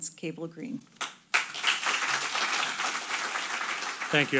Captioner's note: audience applauding